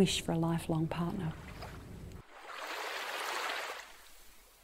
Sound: wave sounds

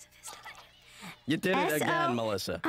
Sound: whispering

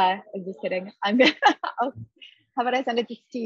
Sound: laughter

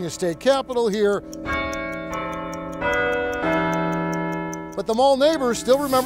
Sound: bells chiming

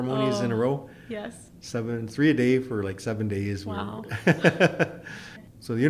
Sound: laughs

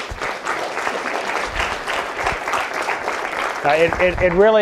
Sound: applause

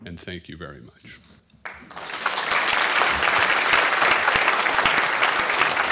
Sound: applause

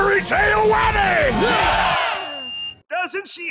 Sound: cheering stops; microphone feedback

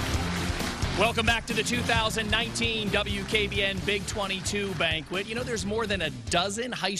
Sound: applause

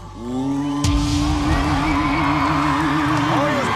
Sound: cheers and applause

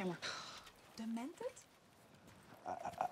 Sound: scoffs

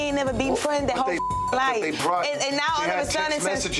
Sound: beep

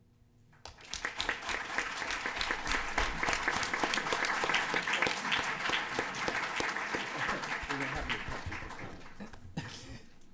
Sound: applause

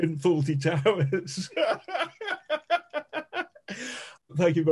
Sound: laughing

